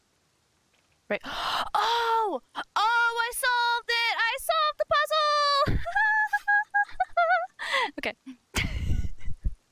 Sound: higher pitched; singsongy laughing

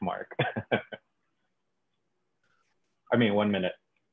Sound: laughs

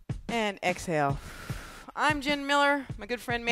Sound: exhales

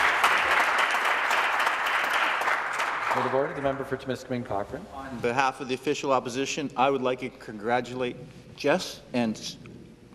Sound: applause

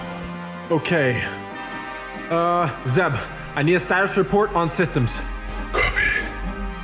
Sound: takes a moment to breathe

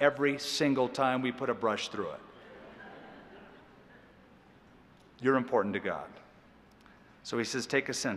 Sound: laughter

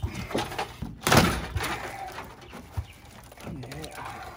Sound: wood breaking

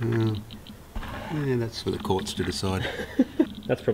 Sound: chuckles

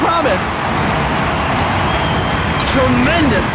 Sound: crowd cheering

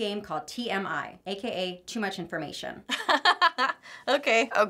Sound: laughing

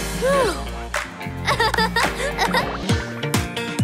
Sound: laughing

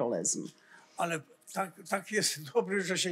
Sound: foreign language

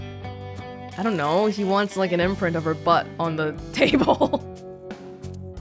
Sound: chuckles

